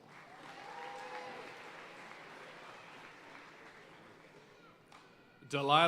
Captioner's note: audience cheering and applauding